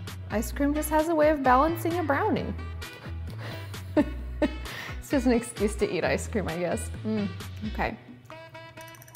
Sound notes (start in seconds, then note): 3.7 laughs